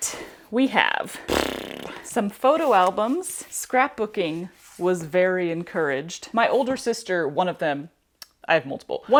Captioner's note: mouth fart